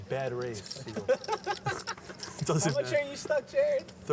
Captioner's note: laughs